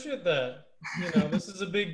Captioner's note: laughter